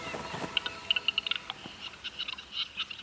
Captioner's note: bird nattering